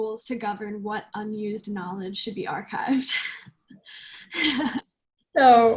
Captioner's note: laughs